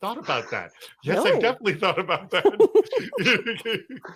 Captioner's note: giggling